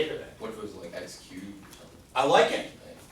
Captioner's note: voiceover